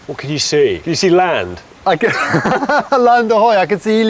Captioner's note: laughs